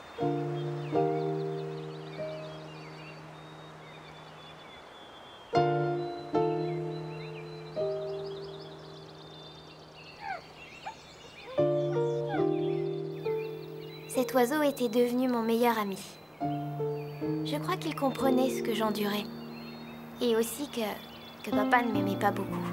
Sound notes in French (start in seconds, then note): 0.0 musique orchestrale légère; 7.2 pépiement de Blackfeather